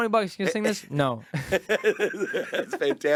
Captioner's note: laughing